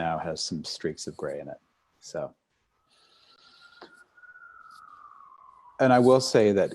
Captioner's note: sirens in background